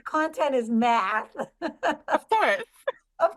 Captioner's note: laughter